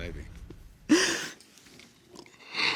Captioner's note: crying